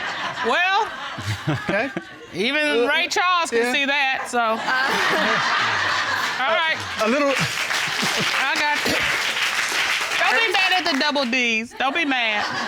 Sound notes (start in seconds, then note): 4.4 chuckling; 5.3 audience laughing; 7.8 chuckles